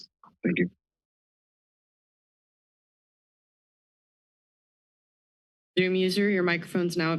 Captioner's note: silence